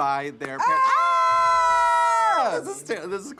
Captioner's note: both yelling